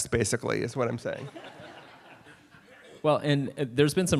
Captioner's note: laughter